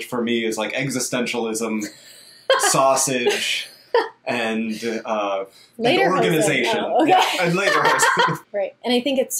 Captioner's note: laughs